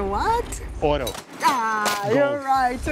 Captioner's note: in Portuguese and English